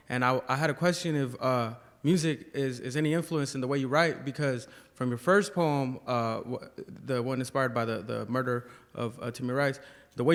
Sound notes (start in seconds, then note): none